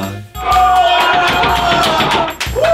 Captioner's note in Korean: 함성과 박수소리; 미친 듯이 환호